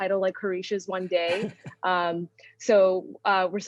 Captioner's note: man laughing